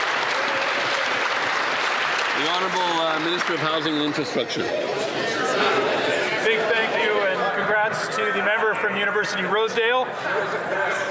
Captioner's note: some Applause